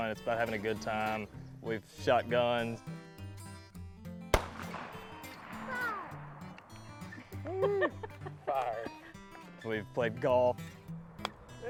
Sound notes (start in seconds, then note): 4.3 gun shoots; 7.1 woman laughs